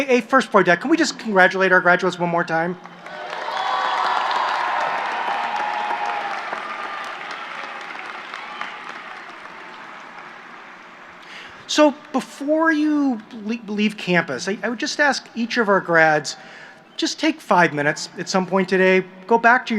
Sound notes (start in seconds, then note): 2.8 applause